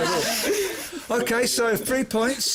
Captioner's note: laughter